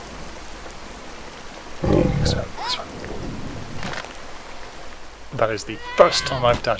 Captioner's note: whisper